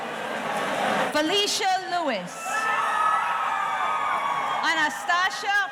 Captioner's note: audience cheering